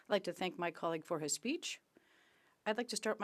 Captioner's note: speaking French